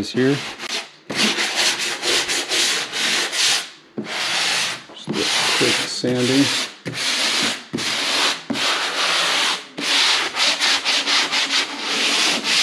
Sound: sanding sounds

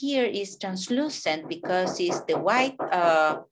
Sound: neighbor hammering

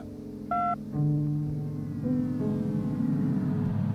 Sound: beep

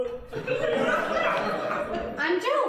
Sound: audience laughing

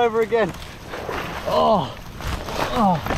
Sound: groaning

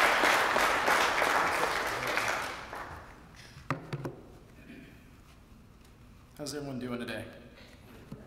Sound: applause

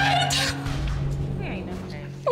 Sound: crying

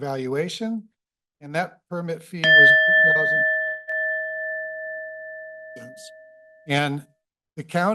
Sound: bell rings

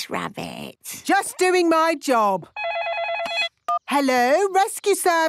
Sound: phone ringing

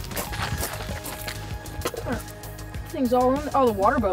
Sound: splashing noises and music

